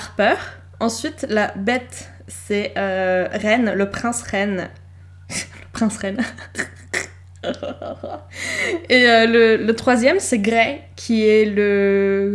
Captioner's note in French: prince reine, *glousse